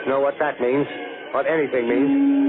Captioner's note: humming Sound